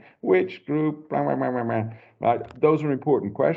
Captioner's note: makes mocking sounds